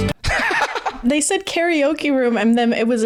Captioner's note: laughs